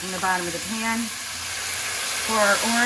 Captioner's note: pan sizzling